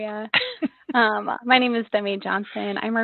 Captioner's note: laughs